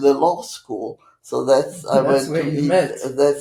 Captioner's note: laughing